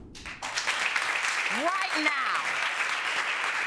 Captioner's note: audience applauding